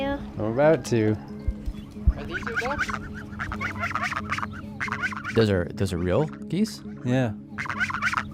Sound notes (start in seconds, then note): 4.7 geese sounds